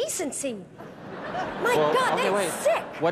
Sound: laughter

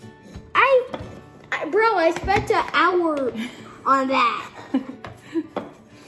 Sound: mom laughs

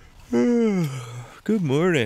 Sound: man yawns

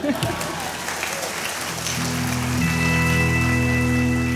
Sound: audience claps

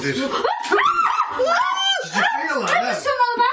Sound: screaming

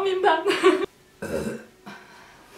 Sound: burps again

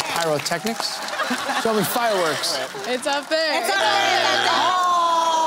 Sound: groaning

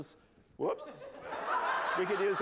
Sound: laughter

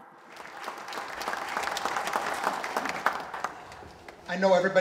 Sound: applause

